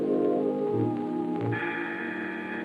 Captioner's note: doorbell buzzer